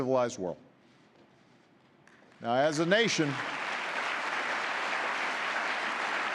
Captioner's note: applause